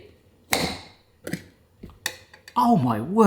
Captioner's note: seal pops